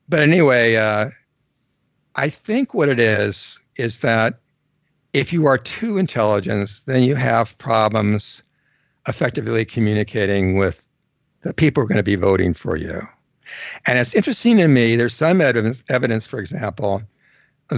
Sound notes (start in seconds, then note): none